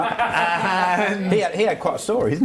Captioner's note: laughs